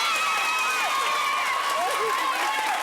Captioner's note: audience cheering